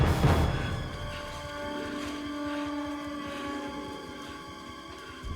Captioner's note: panting